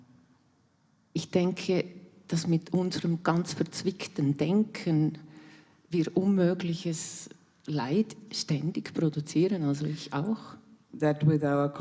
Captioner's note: in German